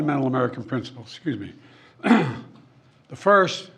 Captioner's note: coughs